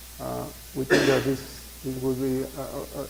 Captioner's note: loud cough